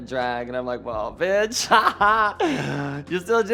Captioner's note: laughs mockingly